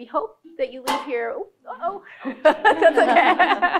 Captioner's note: laughs